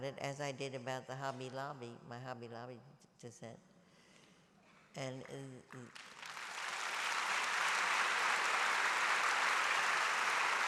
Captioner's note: applause